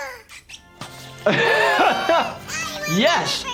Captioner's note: laughing